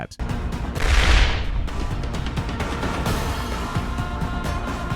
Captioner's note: gameplay playing